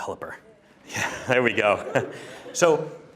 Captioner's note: chuckles